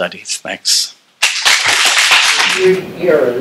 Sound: applause

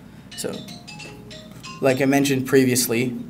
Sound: phone ringtone

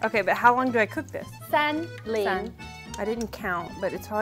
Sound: speaking in mandarin

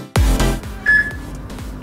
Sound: peep

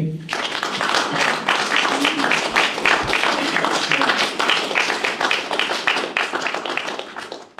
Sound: clapping

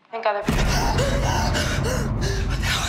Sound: heavy breathing

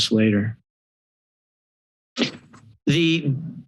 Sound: pause

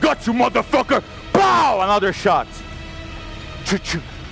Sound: pow

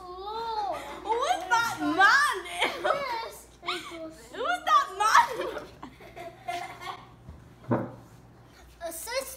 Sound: laughing

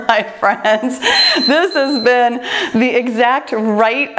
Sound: laughs; timer beeps

